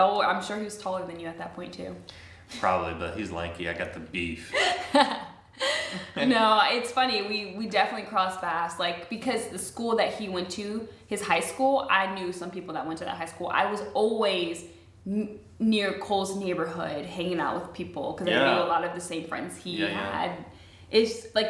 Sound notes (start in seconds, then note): 5.6 laughing